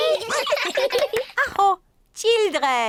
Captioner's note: all laugh; claps hands; exclaims